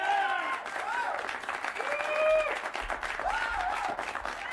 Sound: cheers and applause

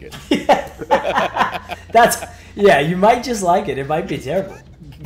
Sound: laugh

